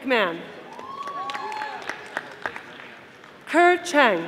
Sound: audience applauding

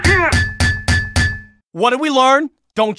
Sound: aluminium baseball bat sounds

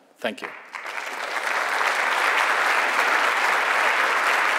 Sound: audience applauds

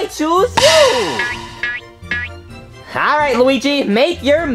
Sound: spring coils

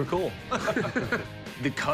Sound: laughter

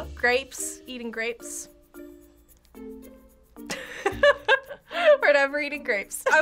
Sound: laughs

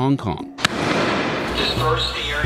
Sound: explosion

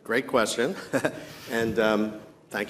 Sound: chuckles

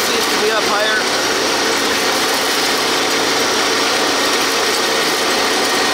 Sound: machine engine roaring

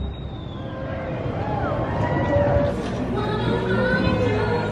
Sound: crowd cheers

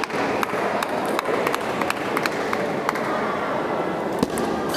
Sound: applause

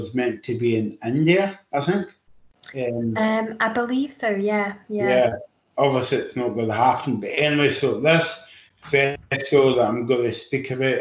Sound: sneezes

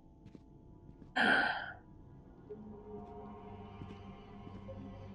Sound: sighs

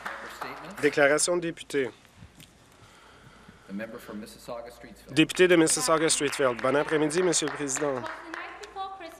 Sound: applause

